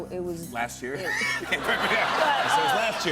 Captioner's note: laughter